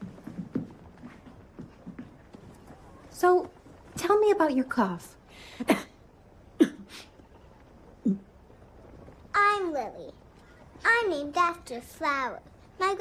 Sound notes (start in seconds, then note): 6.5 coughing